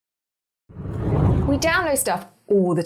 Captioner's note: air whooshing